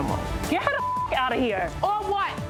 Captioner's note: beep